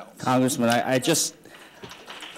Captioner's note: applause